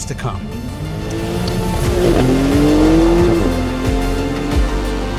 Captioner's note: engine revving; dramatic music continues